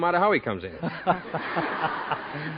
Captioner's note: audience laughs